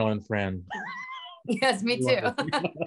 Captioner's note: laughing